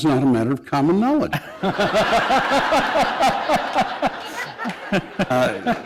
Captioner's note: laughter